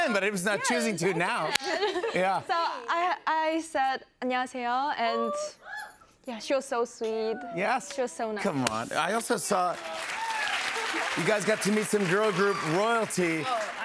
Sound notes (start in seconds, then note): 3.4 speaking Korean; 9.2 applause